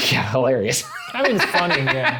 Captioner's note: laughing